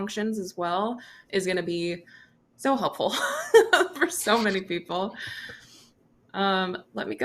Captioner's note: chuckles